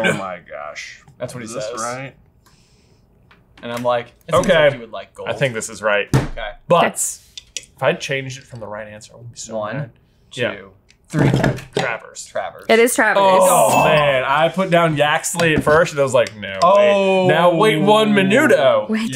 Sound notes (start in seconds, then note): 14.0 bell dings